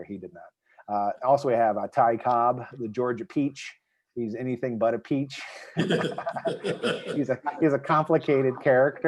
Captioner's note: laughter